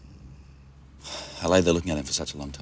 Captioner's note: Jeff sighs